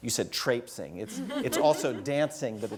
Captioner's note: laugh